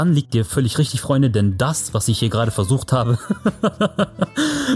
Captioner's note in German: lachend